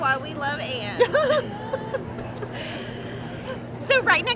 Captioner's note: laughs